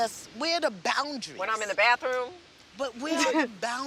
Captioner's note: chuckles